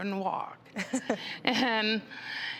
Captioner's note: laughing